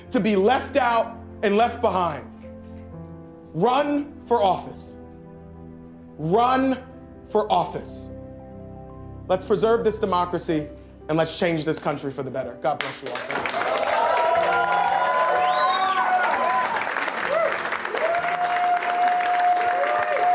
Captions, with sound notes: to be left out and left behind. Run for office. Run for office. Let's preserve this democracy, and let's change this country for the better. God bless you all. Thank you. (crowd cheering and applauding)